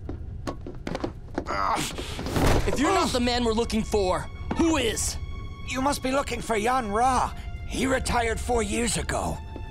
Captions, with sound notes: [groaning] If you're not the man we're looking for, who is? You must be looking for Yon Rha. He retired four years ago.